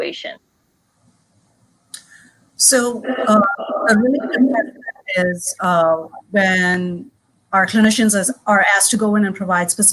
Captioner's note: the recording becomes muffled